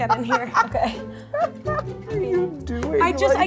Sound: laughing

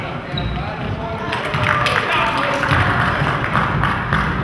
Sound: crowd claps

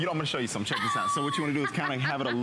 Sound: laughter

